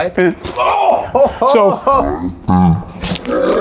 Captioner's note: chuckles